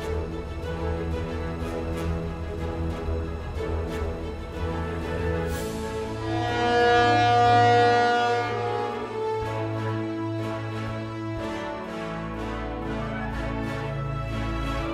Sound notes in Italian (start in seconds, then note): 6.4 sirena della nave